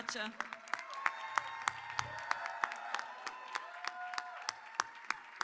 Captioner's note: audience cheers and applauds